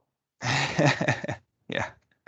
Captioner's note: laughs